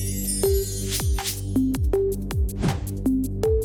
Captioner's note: bells chiming; images whooshing; logos whoosh